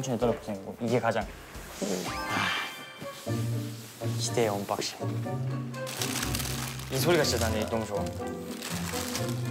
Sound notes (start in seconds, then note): 5.8 rustle rustle The sound of happiness; 5.8 the sound of happiness... The sound of removing the wrapping